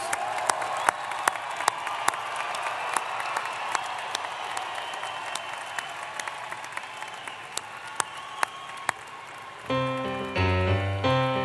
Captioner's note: applause